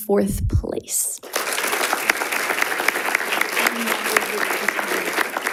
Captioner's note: audience applauding